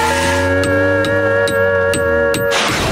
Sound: screeching; hammering; thudding, clattering

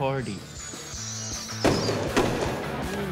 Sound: explosions

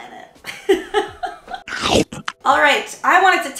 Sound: chomping

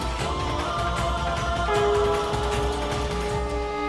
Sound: conch blowing

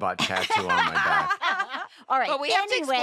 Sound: laughter

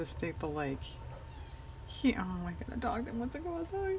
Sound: dog whining

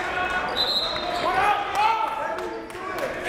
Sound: whistle

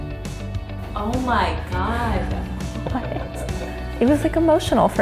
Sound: laughs

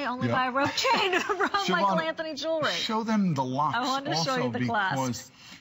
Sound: laughter

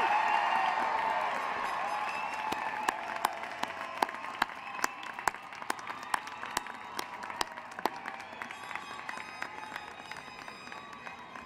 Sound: cheering and applause

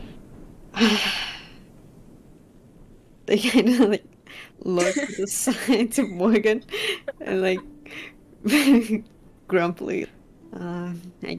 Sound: sighs

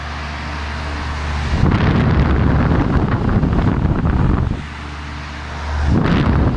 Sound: wind wooshing; wind wooshing again

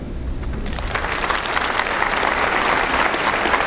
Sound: applause

